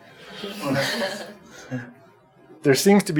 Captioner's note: group laughing